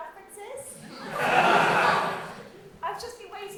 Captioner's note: audience laughter